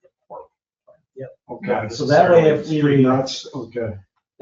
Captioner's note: people chatter